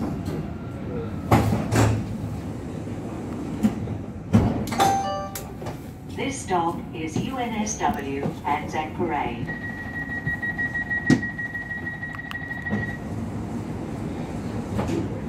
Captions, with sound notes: (2 Tone Chime) This is UNSW Anzac Parade. (Door Chime Sound)